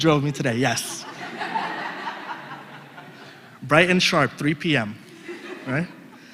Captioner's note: laugh